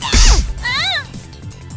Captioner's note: pained moan; shriek